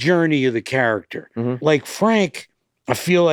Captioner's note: Glenn grunts attentively